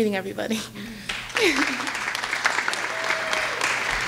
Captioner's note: clapping